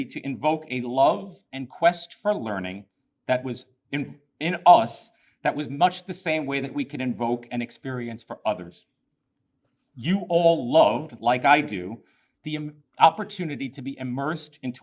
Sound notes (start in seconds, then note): none